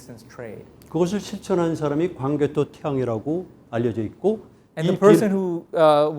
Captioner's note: speaking in Korean